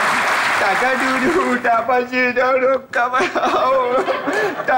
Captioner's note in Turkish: uydurma bir dilde konuşur